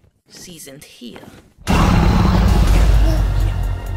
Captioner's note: dragon roar + wall is broken